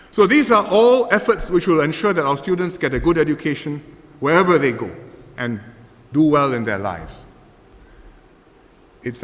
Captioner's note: none